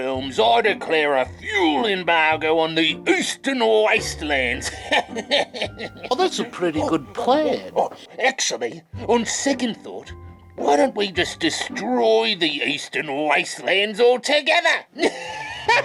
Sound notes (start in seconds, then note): 4.7 chuckles; 15.0 chuckles